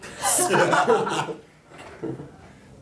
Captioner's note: all laughing